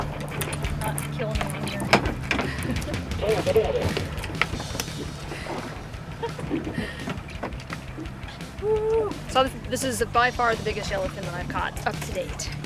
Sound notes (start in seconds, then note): 2.2 laughing